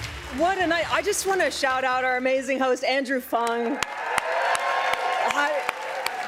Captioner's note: cheers and applause